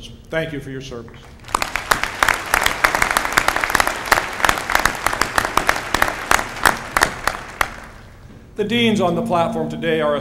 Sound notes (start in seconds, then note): 1.2 applause